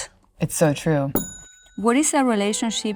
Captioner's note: bell ringing